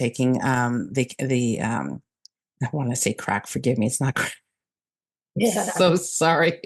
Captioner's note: laughs